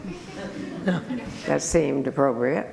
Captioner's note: group laughter